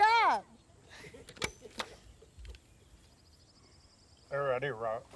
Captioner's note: gun clicking